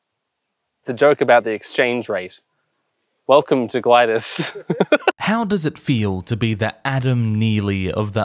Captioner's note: guy laughs